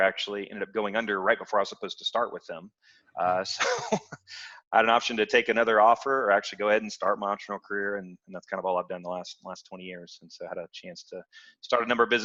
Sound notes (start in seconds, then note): 3.2 laughs